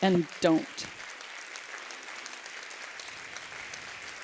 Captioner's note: applause